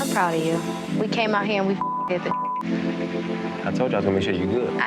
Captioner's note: beep